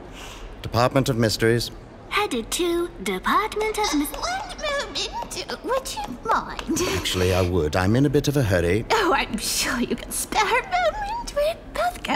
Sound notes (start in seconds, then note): 3.7 screeching voice